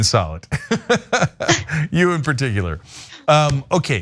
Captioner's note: laugh